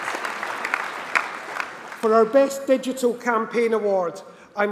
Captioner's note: applause